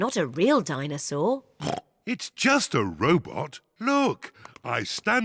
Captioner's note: oinks